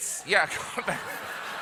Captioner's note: laughter